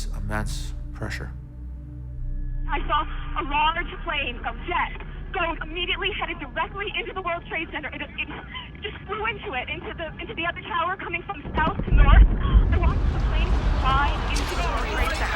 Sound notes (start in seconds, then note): 3.0 on phone